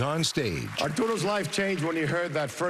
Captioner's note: applause